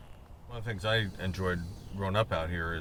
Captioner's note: voiceover